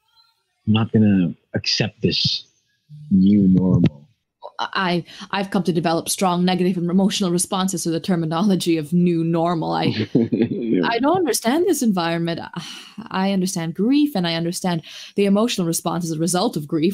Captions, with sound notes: I’m not going to accept this New Normal. I have come to develop strong negative emotional responses to the terminology of “New Normal”. [Laughs] I don’t understand this environment. I understand grief and I understand the emotional response as a result of grief.